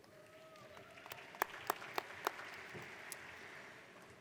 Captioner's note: audience applauds